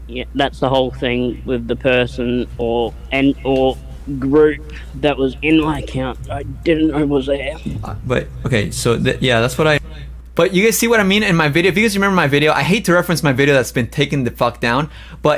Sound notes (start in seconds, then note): 6.1 strains voice